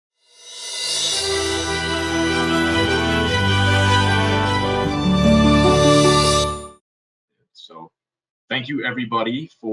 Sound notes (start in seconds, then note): 0.7 logo chiming